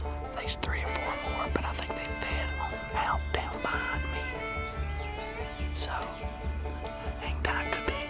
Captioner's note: crickets chirping